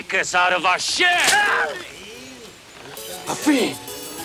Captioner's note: Bruto screams